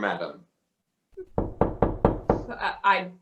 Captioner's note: knock